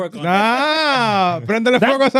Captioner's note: speaking In Foreign Language